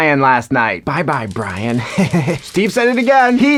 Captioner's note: chuckles menacingly